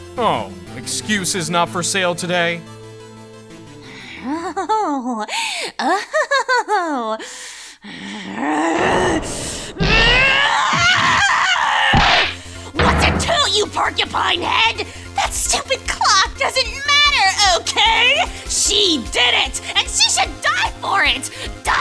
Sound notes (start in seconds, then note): 8.0 growling; 10.9 roaring